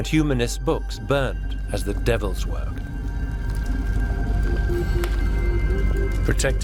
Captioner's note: sound of paper burning up